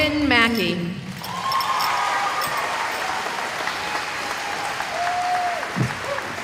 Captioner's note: cheering